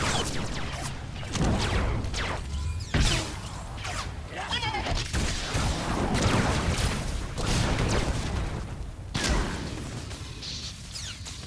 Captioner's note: gunshots